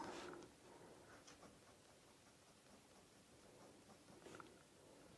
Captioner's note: pencil scratching